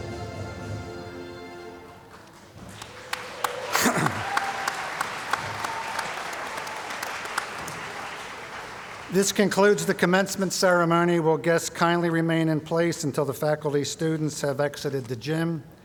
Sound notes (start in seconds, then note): 2.1 applause